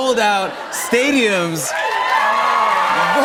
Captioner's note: cheers and applause